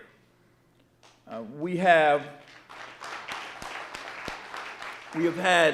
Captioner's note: audience applauding